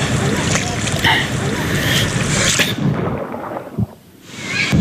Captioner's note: water splashing